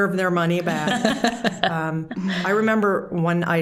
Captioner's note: all laughing